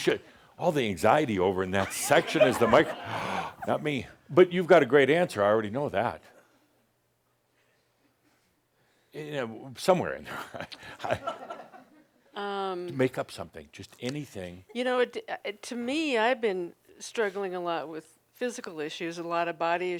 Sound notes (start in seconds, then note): 1.8 laughter; 10.3 a few chuckles